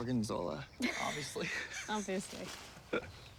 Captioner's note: laughs